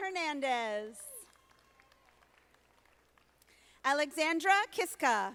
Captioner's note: audience applauding